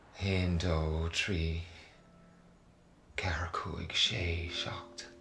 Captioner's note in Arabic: التحدث بلغة أجنبية